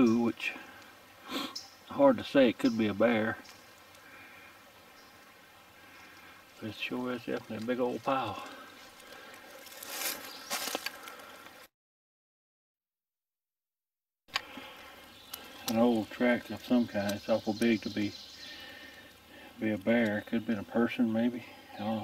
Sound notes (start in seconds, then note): 9.7 leaves rustling